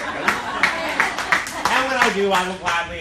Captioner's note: laughing and applauding